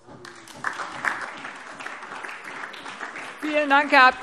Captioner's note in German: Beifall SPD und DIE LINKE